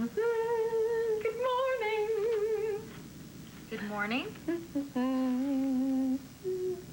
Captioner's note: allison hums